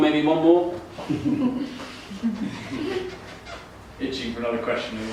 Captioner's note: chuckling